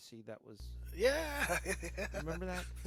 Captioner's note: laughing